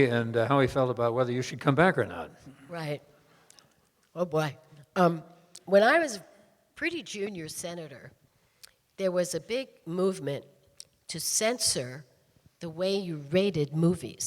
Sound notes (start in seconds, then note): none